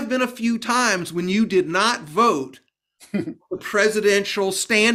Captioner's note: chuckling